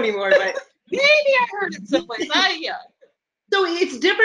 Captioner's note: murmurs